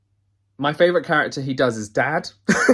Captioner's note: laughs